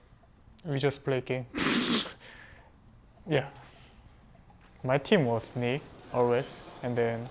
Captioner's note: laughs